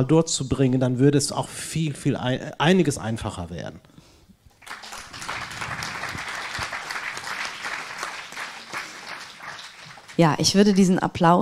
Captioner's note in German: applaus